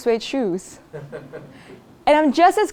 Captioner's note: laugh